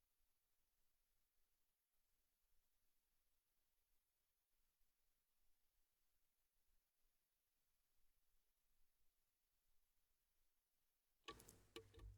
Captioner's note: pounding of gavel